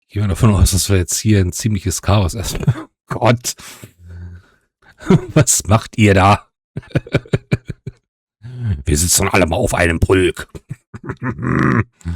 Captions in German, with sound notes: Gehen wir davon aus, dass wir jetzt hier ein ziemliches Chaos erstmal bekommen - Gott, was macht ihr da? [gelächter] Wir sitzen alle mal auf einem Pulk.